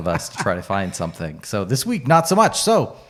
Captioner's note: laughs